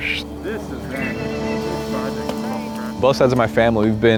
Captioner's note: volunteers chatter